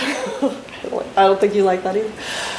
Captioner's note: laughs